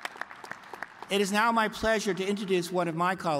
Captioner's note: cheers and applause